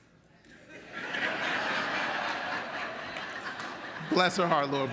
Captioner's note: audience laughs